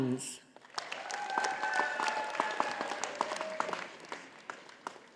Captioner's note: audience applauding